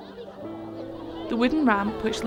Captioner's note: background ambient sounds of children playing